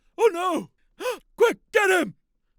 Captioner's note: gasp